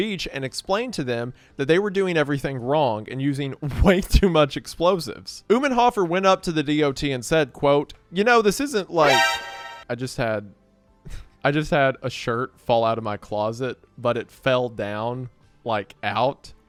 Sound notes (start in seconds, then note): 9.0 "Metal Gear Solid" alert plays